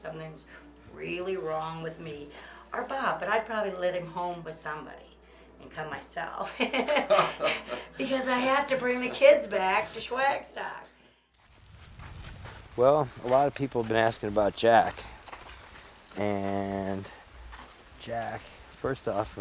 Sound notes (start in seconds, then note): 6.5 both laughing